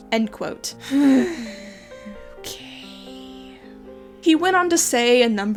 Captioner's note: sighs